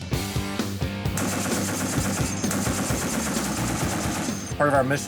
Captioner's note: rock music; machine gun firing